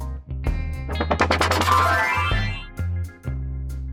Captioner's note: magic sounds